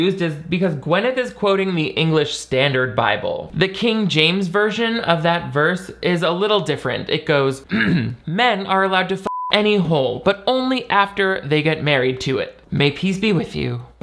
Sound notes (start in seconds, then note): 7.7 clears throat; 9.2 beep